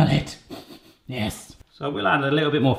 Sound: sniffing

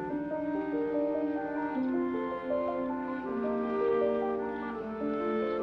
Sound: electric wheelchair motor whirring

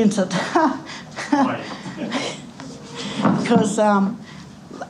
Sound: laughter

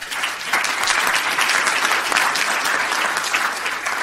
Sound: audience clapping

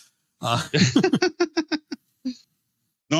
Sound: laughing

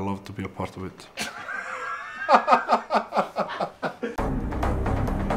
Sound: laugh of a giant

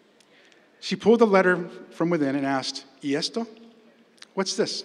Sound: spanish

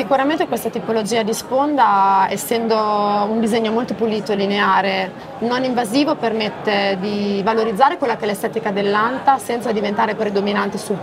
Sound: speaks Italian

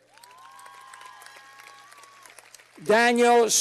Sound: cheers and applause

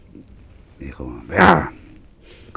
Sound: he grunts

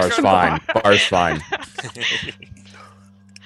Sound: cast laughing

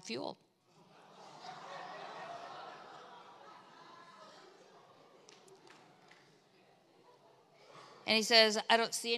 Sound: congregation laughs

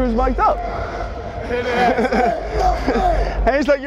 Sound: laughs

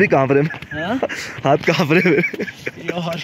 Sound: laughs

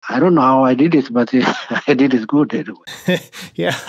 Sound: laughter

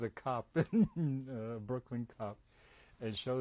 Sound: laughs

